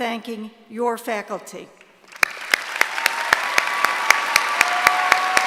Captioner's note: applause